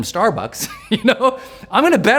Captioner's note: laughs